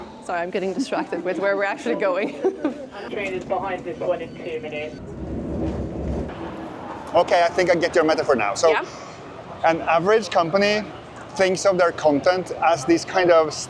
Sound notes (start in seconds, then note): 2.1 laughs